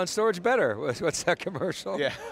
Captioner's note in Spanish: risas